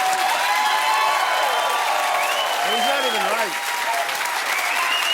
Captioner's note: cheers and applause